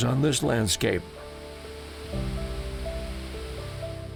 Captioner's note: leaves rustle in the wind